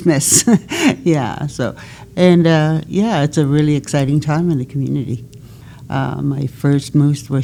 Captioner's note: laughs